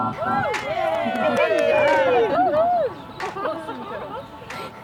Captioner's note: group cheering